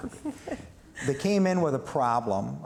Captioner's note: laughs